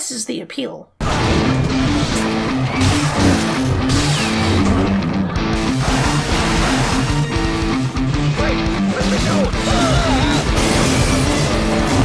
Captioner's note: sounds of Destruction